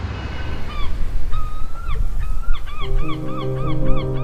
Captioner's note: seagull squawking